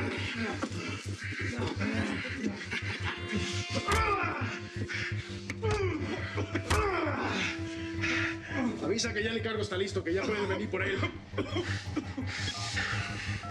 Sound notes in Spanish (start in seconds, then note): 0.2 exclamaciones; 3.5 quejidos; 3.8 golpes